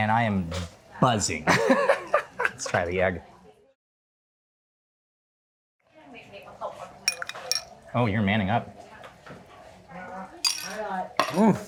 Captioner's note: laughing